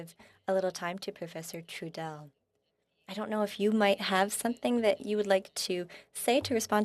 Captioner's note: speaking French